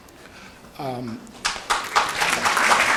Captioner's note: applause